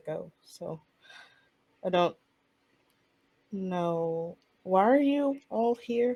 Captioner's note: none